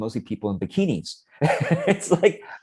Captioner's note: laughs